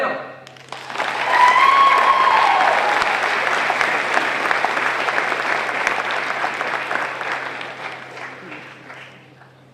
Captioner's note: applause